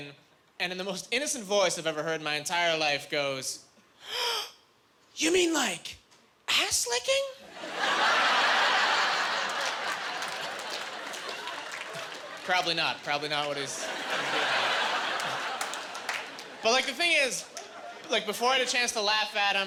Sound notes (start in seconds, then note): 7.6 laughing